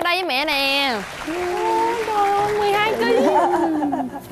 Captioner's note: laughing